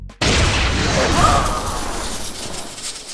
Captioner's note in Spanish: grita